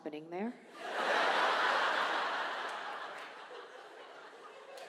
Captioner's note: audience laughs